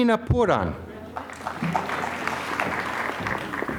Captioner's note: applause